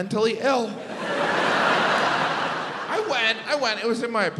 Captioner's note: audience laughs